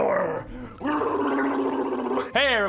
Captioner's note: random angry noises